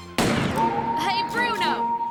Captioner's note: gunshot